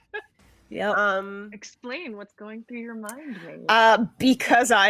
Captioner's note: laughs